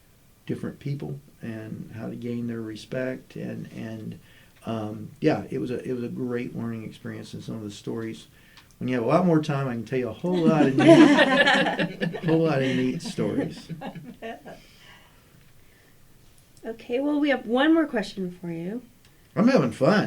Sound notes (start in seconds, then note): 10.2 laughter